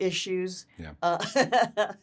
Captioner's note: Laurie laughing